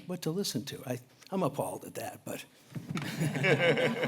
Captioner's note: laughter